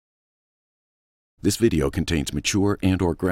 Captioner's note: voiceover